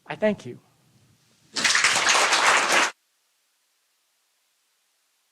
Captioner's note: applause